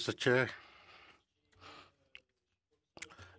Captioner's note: speaking French